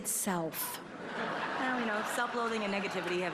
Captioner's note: applause